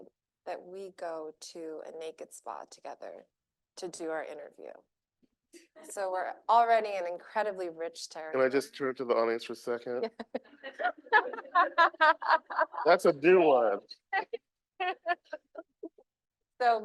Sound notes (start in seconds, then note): 9.8 chuckles; 10.6 laughing; 10.7 audience laughing; 14.3 group laughing